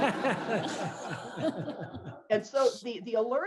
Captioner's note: laughter